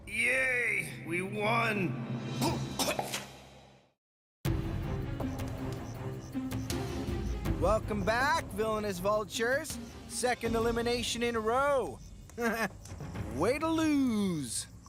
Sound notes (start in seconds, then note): 2.4 coughing